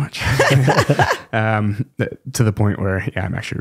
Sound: both laughing

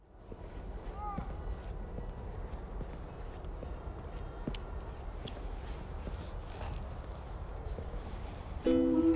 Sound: cityscape sounds

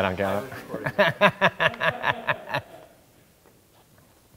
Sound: laughing

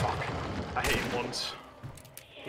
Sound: gunshot

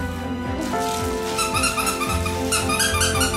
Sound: squeaky toy

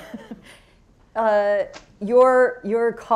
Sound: laughs

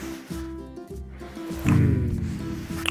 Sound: cute boi purr

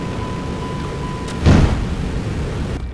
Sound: boom!

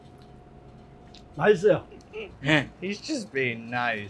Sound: speaking in Korean

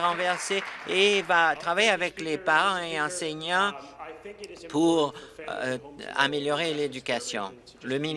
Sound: applause

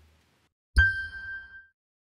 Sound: chime sound

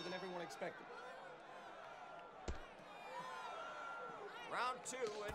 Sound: audience cheering

